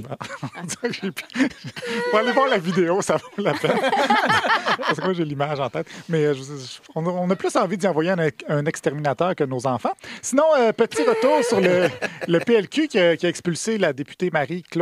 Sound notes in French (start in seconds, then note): 0.0 rires